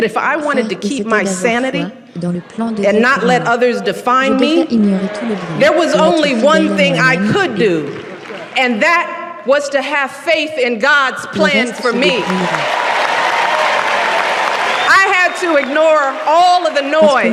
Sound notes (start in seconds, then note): 11.6 cheering